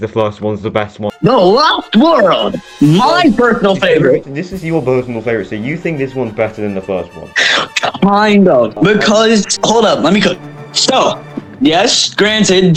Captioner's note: inhale